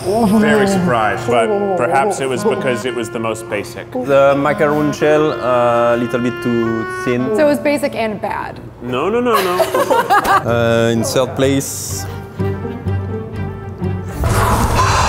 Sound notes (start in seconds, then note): 9.3 laughing; 12.3 suspenesful music